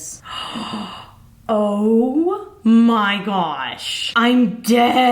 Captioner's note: gasps